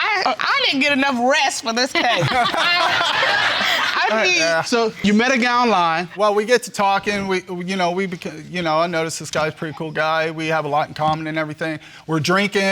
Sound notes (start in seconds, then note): 1.9 laughter; 6.8 stuttering